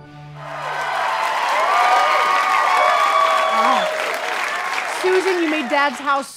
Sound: audience applause

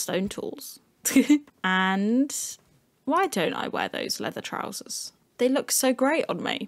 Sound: giggle

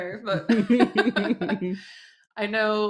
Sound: laughter

